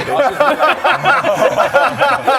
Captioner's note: close-call laughter